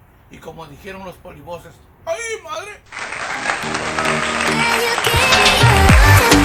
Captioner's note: applause